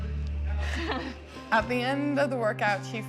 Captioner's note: laughing